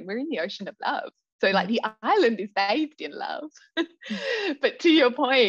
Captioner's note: laughs